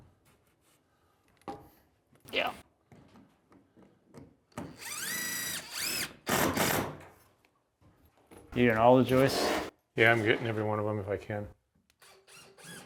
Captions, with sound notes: Yeah. (drilling sounds) You're getting all the joists? - Yeah, I'm getting every one of 'em if I can.